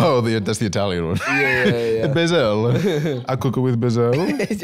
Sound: Italian accent

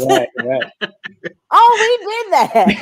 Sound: laughs

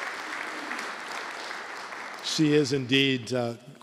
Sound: applause

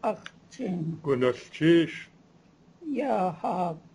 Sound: non-english speech

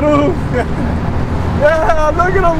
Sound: laughs

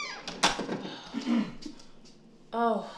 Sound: clears throat

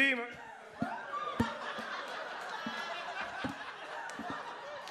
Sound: audience laughs

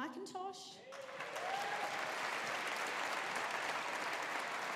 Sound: audience applauding

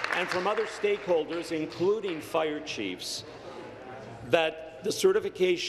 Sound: applause

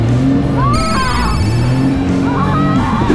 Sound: engine rumbling; engine rumbling continues; screams; screaming continues

